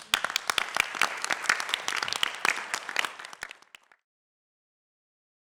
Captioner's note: applause